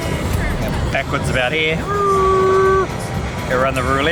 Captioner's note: imitates engine revving